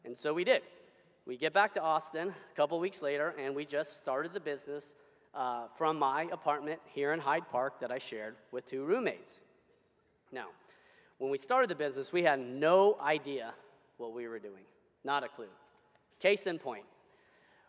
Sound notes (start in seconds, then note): none